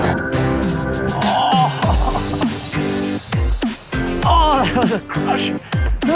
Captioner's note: man groaning